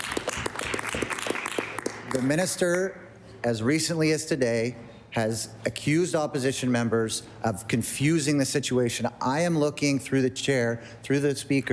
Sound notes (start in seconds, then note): 3.7 applause